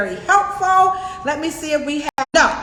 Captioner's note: audio distorts